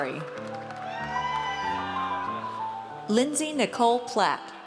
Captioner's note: audience cheers